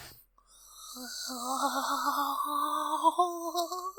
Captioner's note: salivating